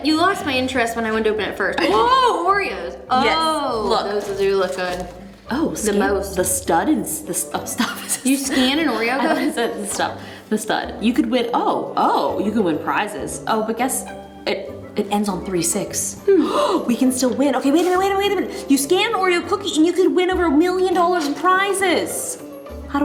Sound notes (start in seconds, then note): 16.3 gasp